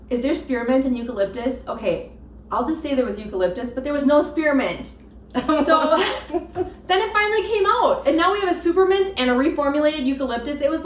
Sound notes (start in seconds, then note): 5.3 both laughing